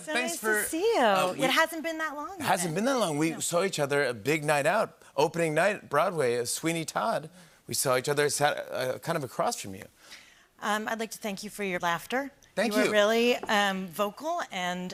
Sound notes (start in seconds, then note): none